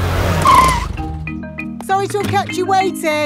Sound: brakes squeal

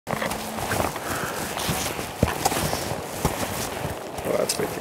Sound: footsteps crunching

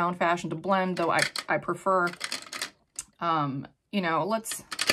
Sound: makeup brushes clanking; makeup brushes clanking

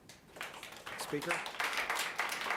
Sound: audience applauding lightly

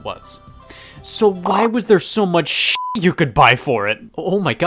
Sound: beep

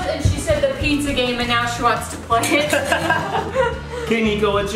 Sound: laughs

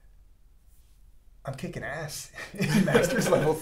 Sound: laugh

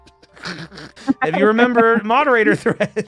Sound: laughter

